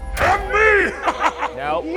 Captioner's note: laughs